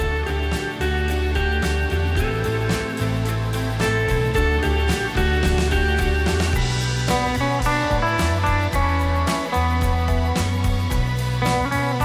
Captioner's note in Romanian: Aplauze